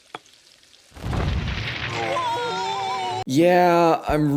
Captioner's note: stove bursts on fire, sounds of panic